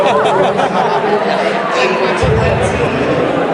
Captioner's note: laughing